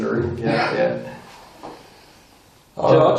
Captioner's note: laughing